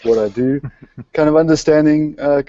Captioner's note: laughter